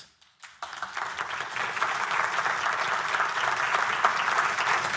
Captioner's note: audience applauding